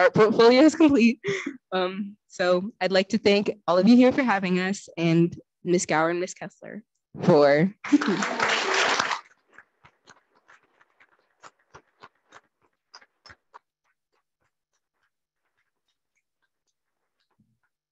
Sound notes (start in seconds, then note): 7.8 audience clapping